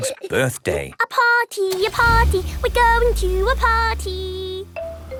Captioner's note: giggling; sing song voice